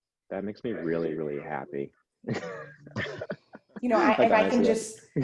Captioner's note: laughs